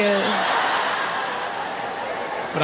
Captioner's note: audience laughs